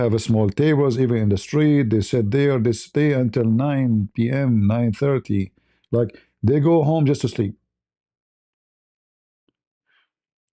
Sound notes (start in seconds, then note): none